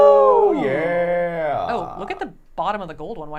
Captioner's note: both whooping